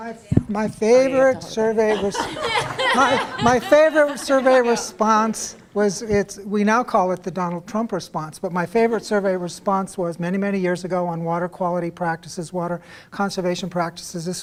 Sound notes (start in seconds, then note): 1.2 laughter